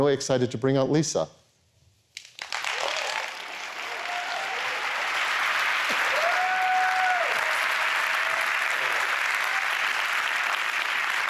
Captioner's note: applause